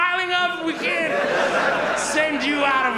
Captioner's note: audience laughs